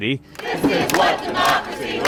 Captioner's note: chanting